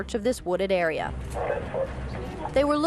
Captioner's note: radio chatter